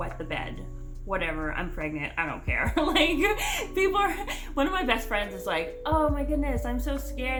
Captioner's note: laughs